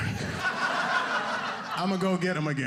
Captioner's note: audience laughing